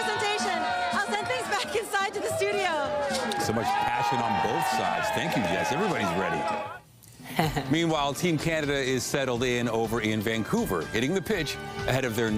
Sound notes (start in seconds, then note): 3.0 applause